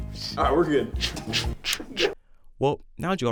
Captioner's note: chugging